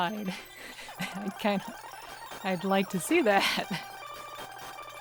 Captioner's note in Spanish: risas